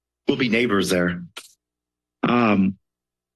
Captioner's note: pause